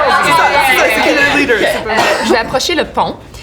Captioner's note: laughter